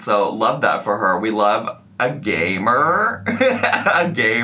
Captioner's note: laughing